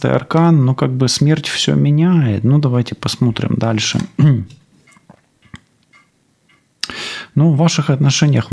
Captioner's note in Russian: откашливается